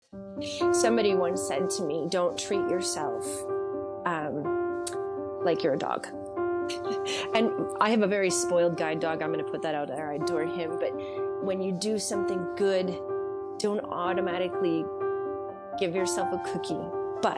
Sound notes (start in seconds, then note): 0.6 gentle music; 6.7 chuckles